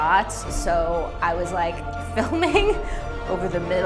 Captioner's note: laughs